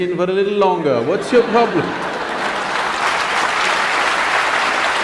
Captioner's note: laughter/Applause; 笑聲/掌聲